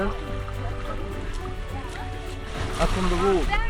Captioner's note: water churns